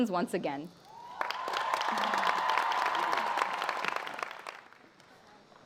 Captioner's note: applause